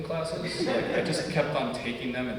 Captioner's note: audience laughs